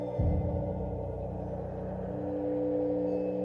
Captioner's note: none